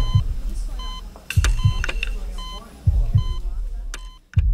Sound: beeping

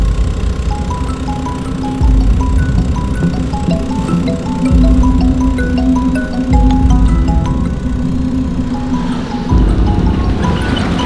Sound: phone ringing

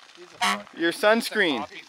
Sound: car horn blowing

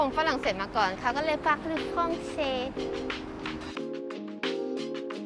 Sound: they speak French

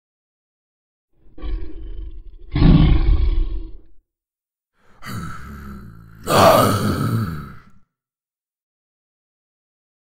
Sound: beast roar

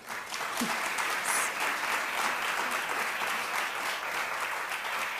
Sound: audience applauding

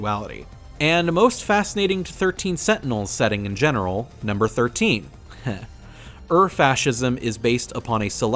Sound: heh

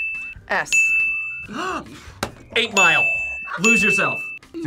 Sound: bell rings; gasps; bell rings

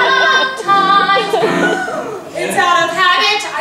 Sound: deep breath

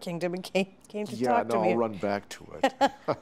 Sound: laughing

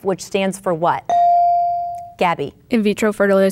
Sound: bell dinging

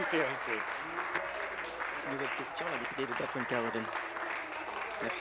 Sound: applause

